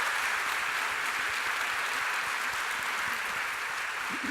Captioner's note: applause